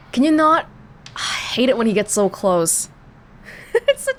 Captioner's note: exhales; chuckles